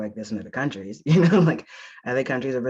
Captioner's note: laughs